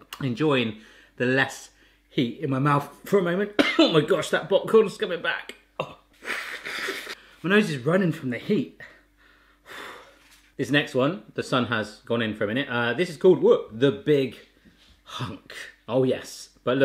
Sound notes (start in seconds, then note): 3.5 coughs; 6.2 blows nose; 8.9 breathes out